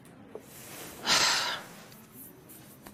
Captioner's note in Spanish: Suspiro